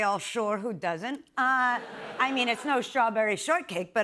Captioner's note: laughter